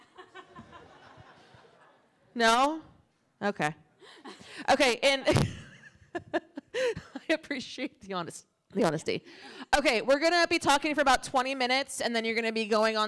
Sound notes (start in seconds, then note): 0.0 laughter; 4.6 brief laughter